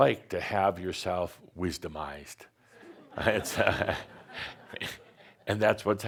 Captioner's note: some laughter